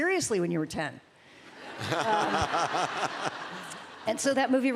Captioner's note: laughter